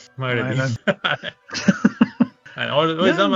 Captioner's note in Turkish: kahkaha